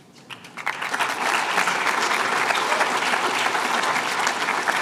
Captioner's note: applause